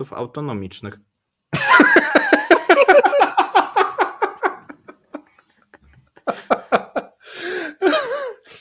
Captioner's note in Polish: śmiech